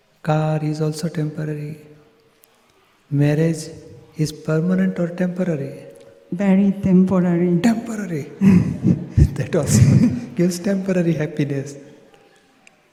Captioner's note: laughs